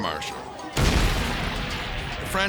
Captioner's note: fire roars